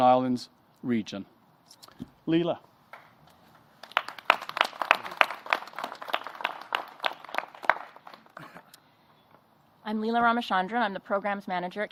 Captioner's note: applause